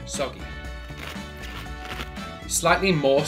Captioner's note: lettuce crunches